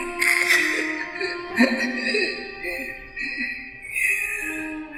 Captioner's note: wheezing, gasping for breath